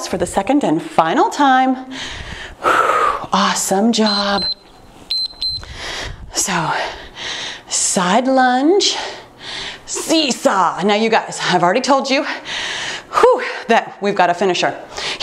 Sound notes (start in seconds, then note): 1.9 exhales; 5.0 timer beeps; 13.2 sighs